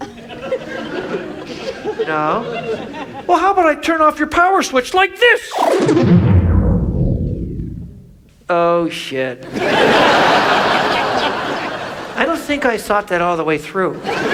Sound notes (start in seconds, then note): 0.0 audience laughs; 5.7 lights shuts down; 9.5 audience laughs; 13.9 audience laughs